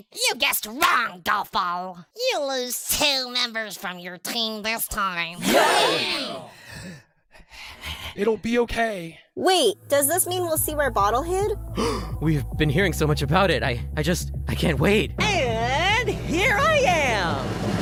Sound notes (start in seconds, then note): 5.4 cheers; 6.3 anxious breathing; 11.7 gasp